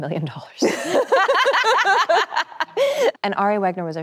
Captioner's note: both laugh cheerfully